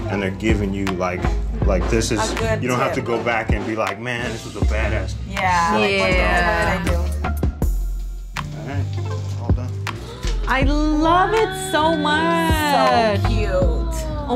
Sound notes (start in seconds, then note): 10.1 gasping